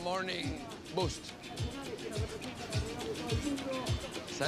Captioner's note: speaking Spanish; in Spanish